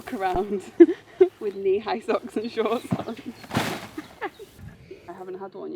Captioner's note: laughs